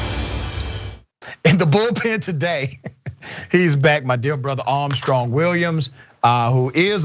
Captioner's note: laugh